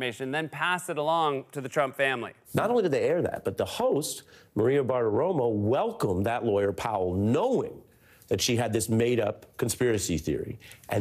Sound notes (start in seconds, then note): none